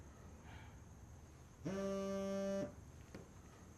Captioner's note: phone sound